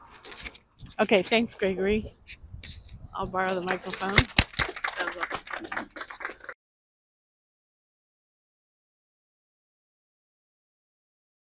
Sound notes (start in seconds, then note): 3.6 the audience applauds